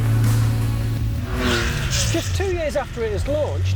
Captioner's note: car engine roars